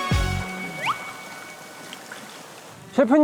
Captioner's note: whoosh